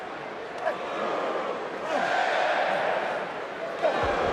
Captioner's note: audience cheering